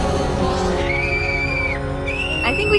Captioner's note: screams